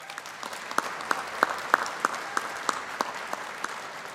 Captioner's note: audience applauding